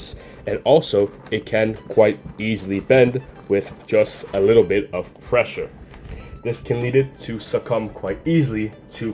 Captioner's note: squish squish